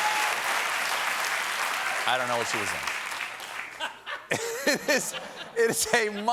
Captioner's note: applause